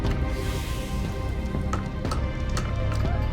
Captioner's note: hissing